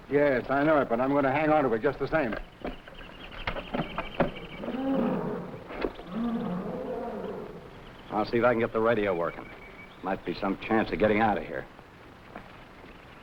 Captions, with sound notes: - Yes, I know it, but I'm gonna hang on to it just the same. (animals chattering) (jungle animal groaning) - I'll see if I can get the radio working. Might be some chance of getting out of here.